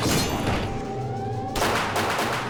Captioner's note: metallic ringing; gun fires